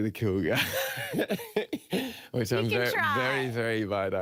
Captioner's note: laughing